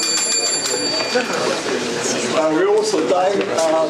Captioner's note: indistinct conversation